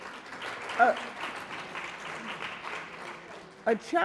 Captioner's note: audience applauding